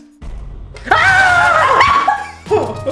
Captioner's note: screaming; laughs; laughing